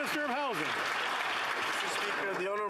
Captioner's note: applause